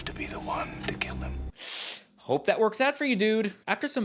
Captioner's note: winces